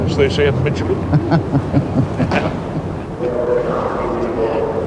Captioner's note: Albert laughing